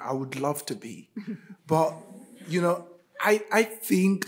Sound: group laughing

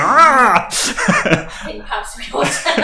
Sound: laughing

